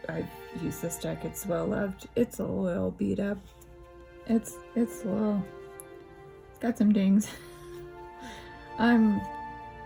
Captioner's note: laugh